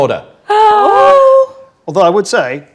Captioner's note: group gasps